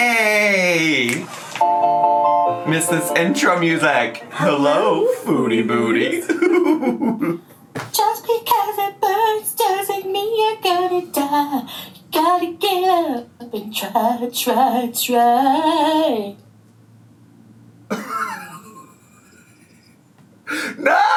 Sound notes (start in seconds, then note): 1.7 upbeat music; 6.1 laughs; 17.9 laughs